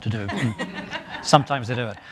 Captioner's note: laughing